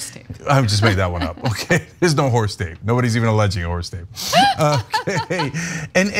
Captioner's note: laugh